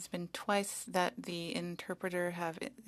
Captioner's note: speaking French